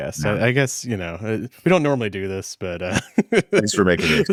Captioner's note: laughs